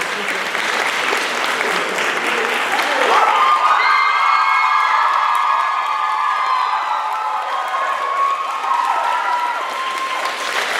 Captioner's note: applause, cheers